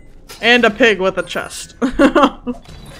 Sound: chuckles

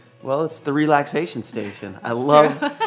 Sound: laughs

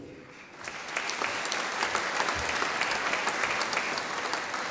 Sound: audience applauding

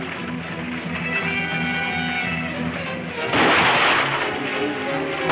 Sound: ominous music playing; gunshots firing; dramatic music playing

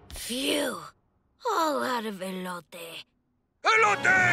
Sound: speaking Spanish; toy talking in Spanish

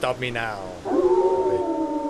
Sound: a cacophany of wolves howling

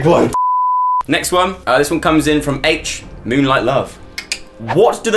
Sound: beep; clicks tongue

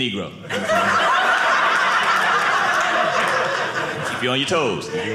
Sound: audience laughing

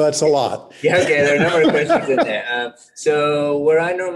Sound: laughs

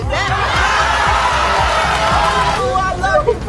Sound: audience cheering; applauding

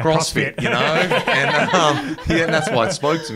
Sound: everyone laughing

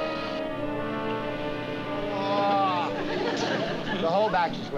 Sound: groan

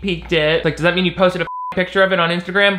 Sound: beep

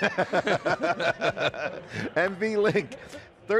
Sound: laughing

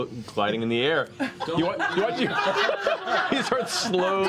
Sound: laughter

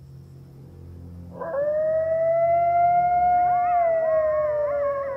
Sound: coyotes howling

